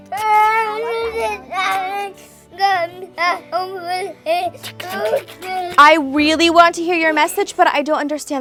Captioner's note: child crying, whimpering; child crying/talking